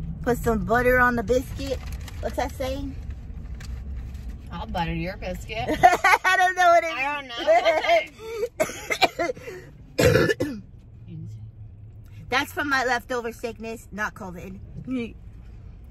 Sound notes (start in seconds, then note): 6.2 laughs; 8.2 coughs